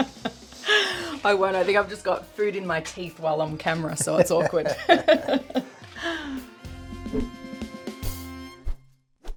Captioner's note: laughs